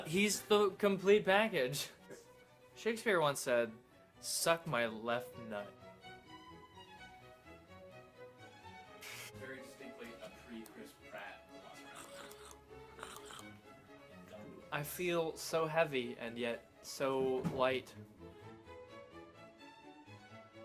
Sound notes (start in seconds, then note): 12.0 dinosaur sounds